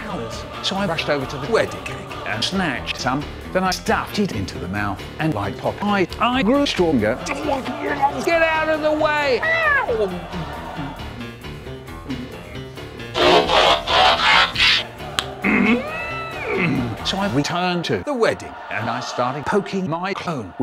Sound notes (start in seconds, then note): 7.9 gobbling; 10.7 eating